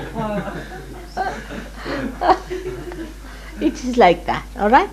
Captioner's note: laughter